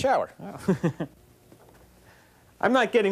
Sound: laughing

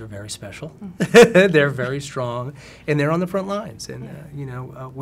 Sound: laughs

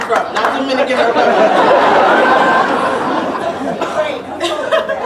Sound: laughter

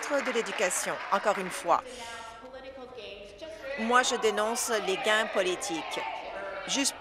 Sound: applause

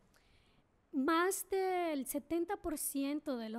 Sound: speaking spanish

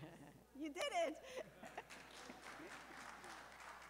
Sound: laughter and scattered applause

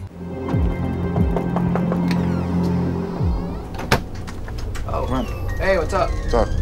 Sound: deep tense music; knocking

